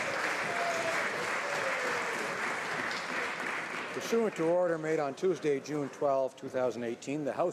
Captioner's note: applause